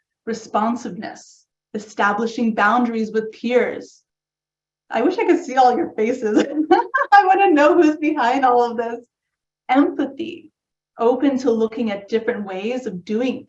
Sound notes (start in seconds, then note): 6.3 laugh